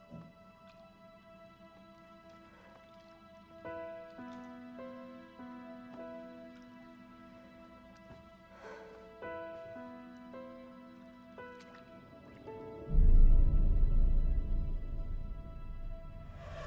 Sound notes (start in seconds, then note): 8.6 Mattie sighs; 13.8 eerie music